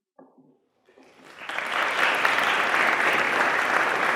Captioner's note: audience clapping